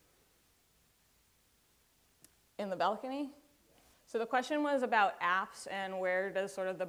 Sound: off microphone

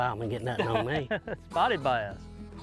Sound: laughing; light guitar music

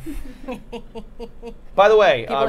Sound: Safiya laughing

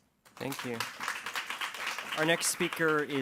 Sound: audience clapping

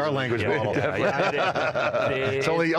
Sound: all laughing

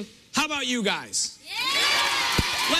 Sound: cheers and applause

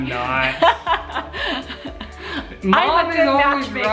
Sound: laughs

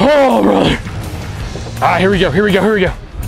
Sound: gasps; grunts

